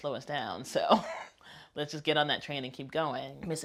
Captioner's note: laughs